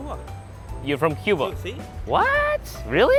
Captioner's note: speaking foreign language